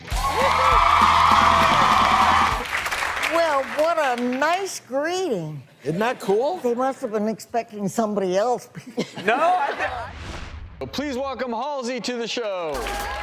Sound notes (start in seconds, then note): 0.0 audience cheers and applauds; 9.0 chuckles; 10.3 swoosh; 12.8 audience applauds and cheers